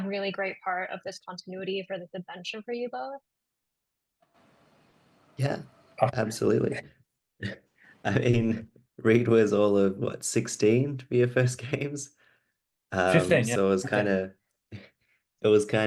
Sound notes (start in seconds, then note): 8.1 chuckles